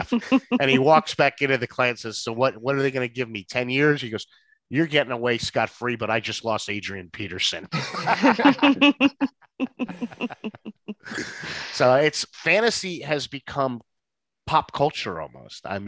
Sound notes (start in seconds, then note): 7.6 all laughing